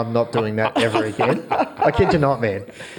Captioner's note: all laugh